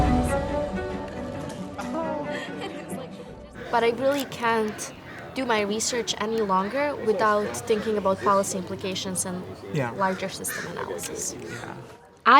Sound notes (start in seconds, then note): 0.6 faintly speaking